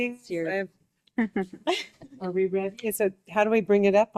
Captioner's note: group laughing